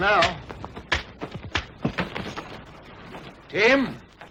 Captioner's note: air rifle popping